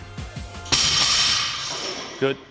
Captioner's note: bar bell thuds